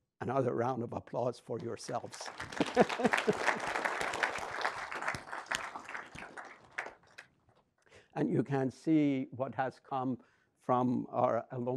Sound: audience clapping

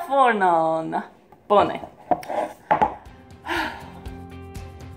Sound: sigh

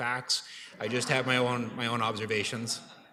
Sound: laughter

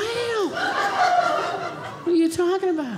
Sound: audience laughing

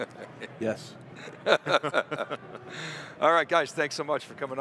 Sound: everyone laughs

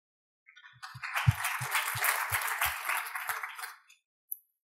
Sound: audience applauding

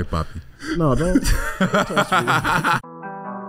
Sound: laughs; mellow music

